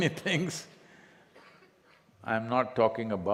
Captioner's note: laughs